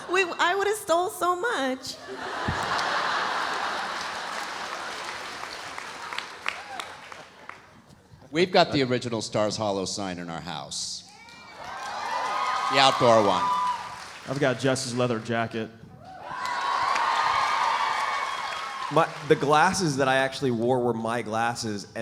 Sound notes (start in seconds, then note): 2.0 audience laughs; 11.1 audience cheering; 16.2 audience applauding